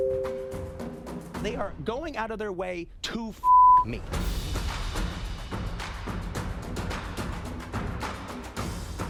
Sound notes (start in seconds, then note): 3.4 beep; 4.1 bouncy drum music